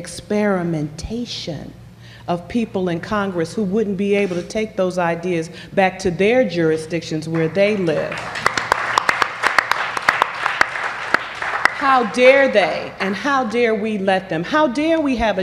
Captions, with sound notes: EXPERIMENTATION OF PEOPLE IN CONGRESS WHO WOULDN'T BE ABLE TO TAKE THOSE IDEAS BACK TO THEIR JURISDICTIONS WHERE THEY LIVE. [APPLAUSE] HOW DARE THEY AND HOW DARE WE LET THEM -- HOW DARE WE HAVE A